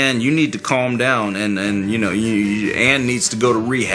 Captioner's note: stutters